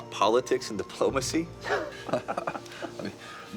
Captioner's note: both chuckle